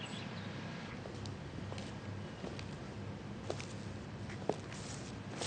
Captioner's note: light footsteps echo